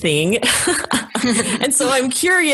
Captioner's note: laughs